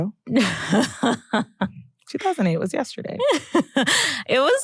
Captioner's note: laughs